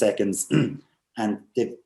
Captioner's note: clears throat